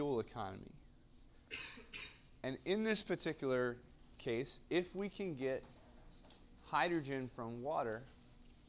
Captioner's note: cough